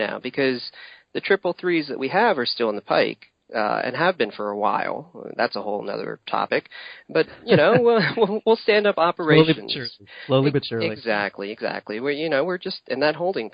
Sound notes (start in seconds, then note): 5.5 sarcastically; 7.2 chuckling